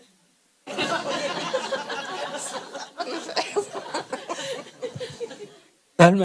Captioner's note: audience/Questioner Laughter